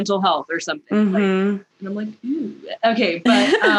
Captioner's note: laughter